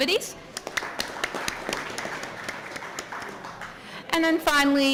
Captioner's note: applause